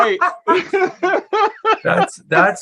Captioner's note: laughter